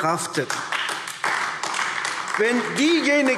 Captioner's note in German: Beifall AfD